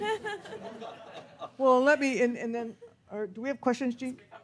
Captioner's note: audience laughs